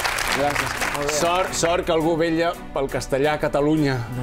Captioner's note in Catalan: aplaudiments